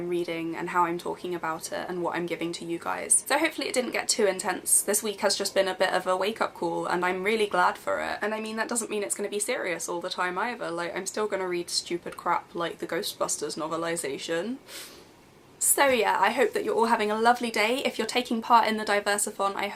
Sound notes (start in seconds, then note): 14.7 sniffs